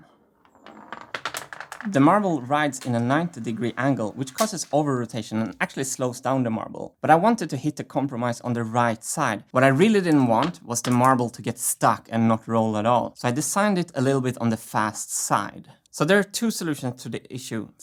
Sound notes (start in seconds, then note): 0.4 marble clicks